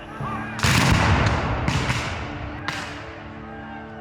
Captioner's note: guns fire